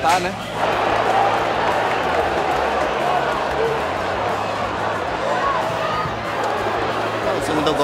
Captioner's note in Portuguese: sons da torcida